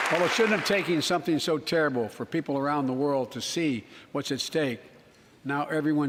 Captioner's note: applause